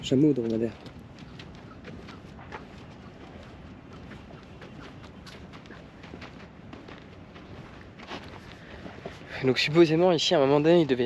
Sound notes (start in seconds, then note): 3.2 footsteps; 7.3 speaking in foreign language